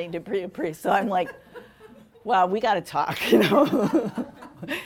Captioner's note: laughing